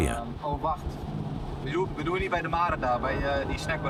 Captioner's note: Dutch spoken audio